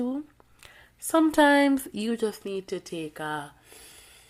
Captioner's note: breathes in